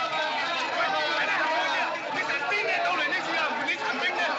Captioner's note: all Chattering, Shouting